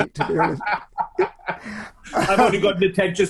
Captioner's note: laughs loudly